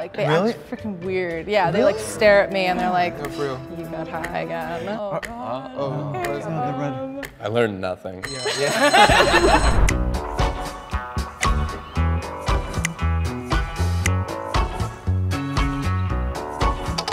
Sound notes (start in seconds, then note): 5.2 clock ticking; 8.2 bell rings; 8.5 everyone laughs; 10.1 upbeat music